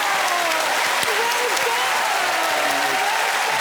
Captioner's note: cheering and applause